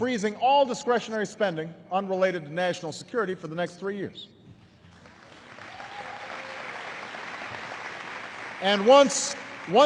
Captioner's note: applause